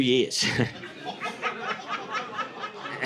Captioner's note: audience laughing